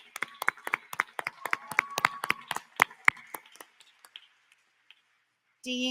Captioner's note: applause